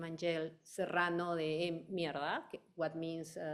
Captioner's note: speaking in foreign language